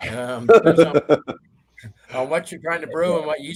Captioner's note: laughs